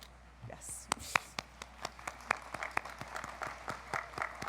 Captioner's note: audience applauds